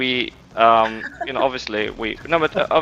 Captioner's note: laughs